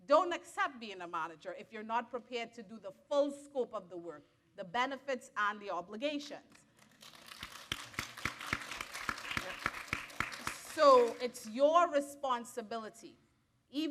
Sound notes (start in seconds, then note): 6.8 audience applaud